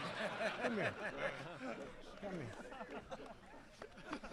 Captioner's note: laughter